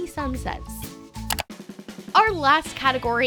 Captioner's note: clicking